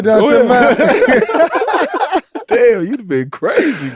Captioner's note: all laughing